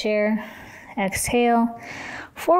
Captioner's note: exhales